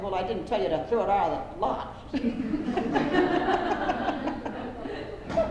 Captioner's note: laughter